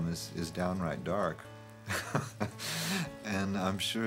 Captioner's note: laughs